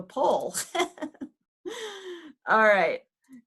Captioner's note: chuckles